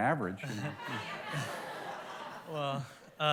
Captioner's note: laughter